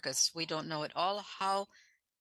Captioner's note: speaking French